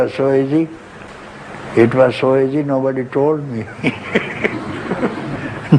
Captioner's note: laughter